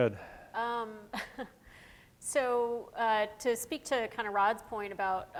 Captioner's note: chuckles